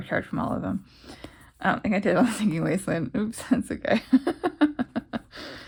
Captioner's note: laugh